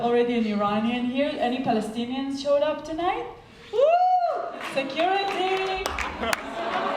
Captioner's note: laughing